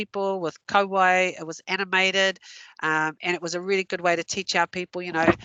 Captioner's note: non-english